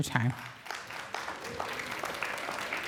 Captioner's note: applause